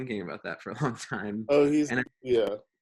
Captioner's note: chuckles